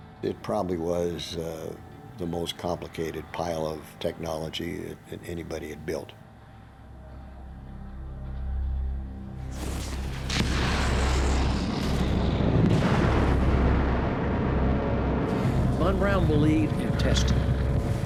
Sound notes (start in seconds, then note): 9.5 rockets firing